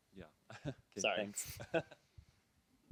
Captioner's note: voiceover